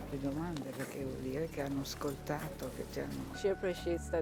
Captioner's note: speaking in foreign language